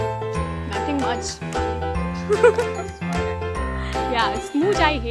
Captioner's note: laughs